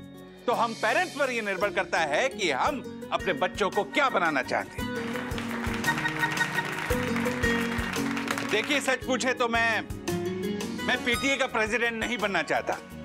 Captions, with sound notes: It depends on the parents as to what they want to make out of their kids. [clapping] Truth be told, I don't want to become the president of the PTA.